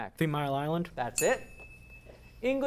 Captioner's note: ding